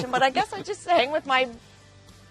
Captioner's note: laughs